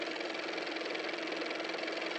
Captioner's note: car motor